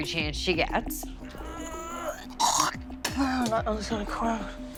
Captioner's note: gagging